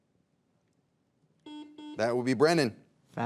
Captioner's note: buzzer dings